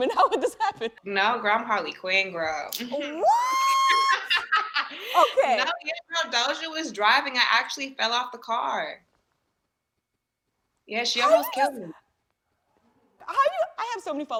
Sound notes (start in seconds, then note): 3.8 laughs